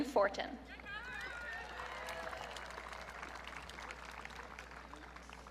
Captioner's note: audience cheering